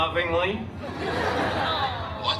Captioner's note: guests laughing